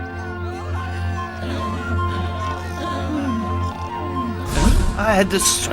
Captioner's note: people cheering; men snoring